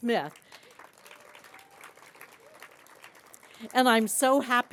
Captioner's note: applause